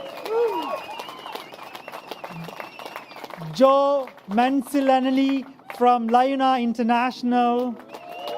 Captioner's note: applause